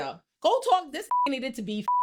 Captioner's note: beep